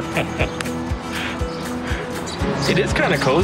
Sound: laughter

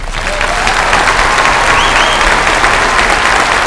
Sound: applause

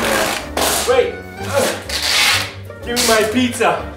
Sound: groan

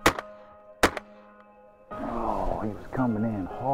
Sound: gunshots

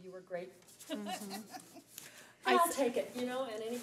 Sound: laughs

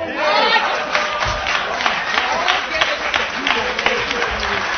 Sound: applause

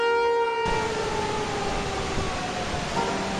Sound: water gushing

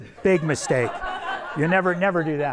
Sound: everyone laughs

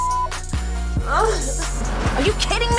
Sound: crying

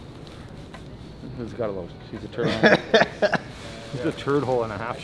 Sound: laughs

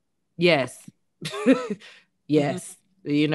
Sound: chuckles

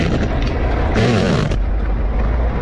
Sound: gears grinding

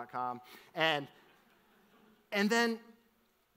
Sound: audience laughs

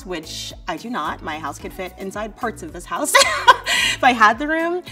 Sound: laughs

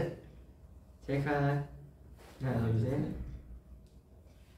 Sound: click

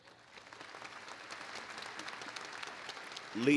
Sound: applause

